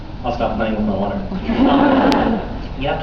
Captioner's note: laughs